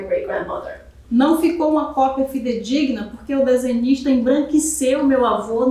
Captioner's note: speaking portuguese